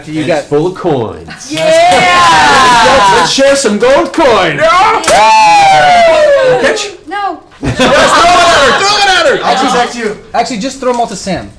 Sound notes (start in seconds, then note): 4.6 cheering